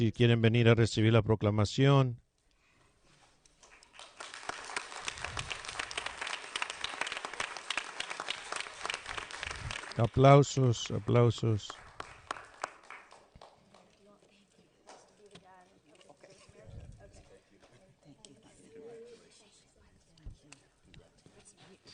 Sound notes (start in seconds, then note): 10.2 applause